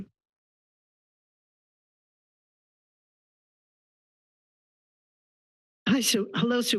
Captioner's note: silence